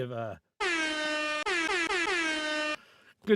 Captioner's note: air horn blaring